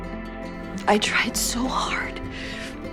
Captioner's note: voiceover